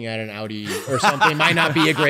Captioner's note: laughter